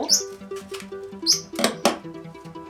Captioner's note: chirp